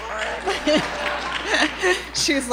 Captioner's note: applause